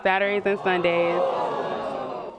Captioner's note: audience gasps